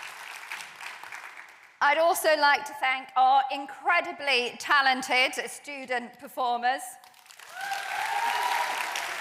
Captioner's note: applause